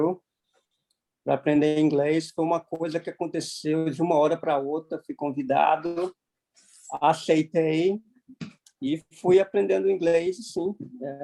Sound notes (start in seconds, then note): none